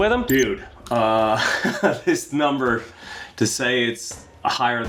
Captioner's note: laughs